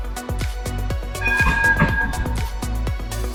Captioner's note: tram bell dings